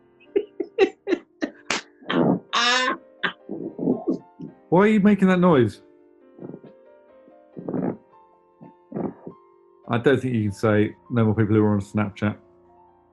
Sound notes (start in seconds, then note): 0.3 laughing; 2.1 low creaking noises; 6.3 leather sofa creaks